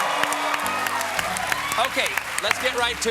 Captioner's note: applause